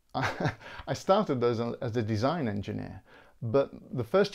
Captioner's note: laughs